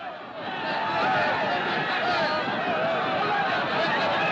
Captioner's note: Gritos, clamores